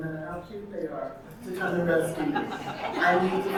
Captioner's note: audience laughing